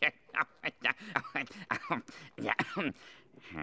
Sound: laughing

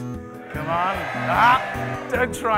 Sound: cheering

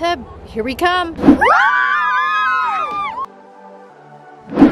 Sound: screaming

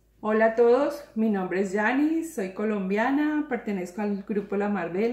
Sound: speaks in foreign language

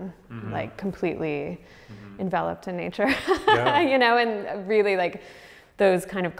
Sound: laughs

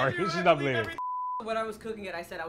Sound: broadcast signal beeps

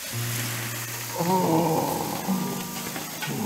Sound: both groan

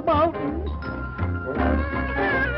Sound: babies crying

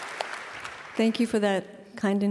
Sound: applause

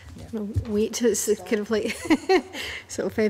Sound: laughs

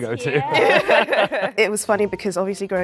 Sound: laughing

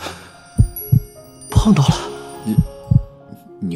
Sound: badump, badump

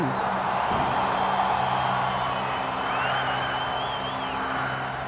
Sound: crowd cheering

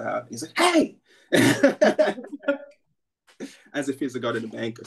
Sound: laughter

